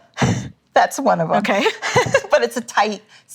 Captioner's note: laughing